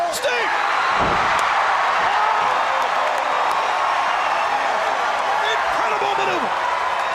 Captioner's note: crowd cheering